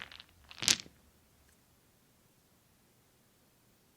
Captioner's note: dice splatting